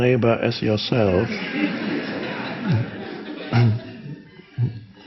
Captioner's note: crowd laughs